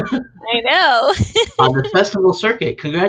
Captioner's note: laughs